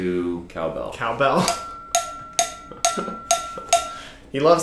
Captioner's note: cowbell clanking